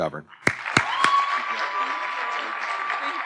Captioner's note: audience cheering and applauding